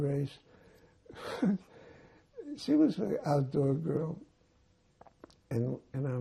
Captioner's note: laughing